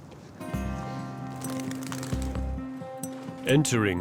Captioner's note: wings fluttering